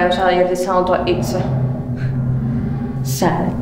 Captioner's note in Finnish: stressaavaa äänimaisemaa